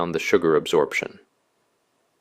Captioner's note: pause